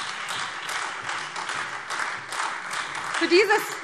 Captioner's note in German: Beifall Freie Demokraten, vereinzelt SPD und AfD